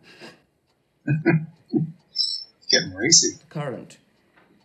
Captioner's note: chuckling